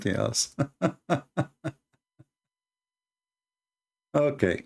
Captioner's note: Ketawa